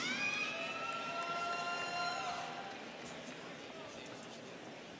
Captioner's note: students cheering